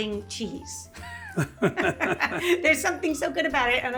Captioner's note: both laughing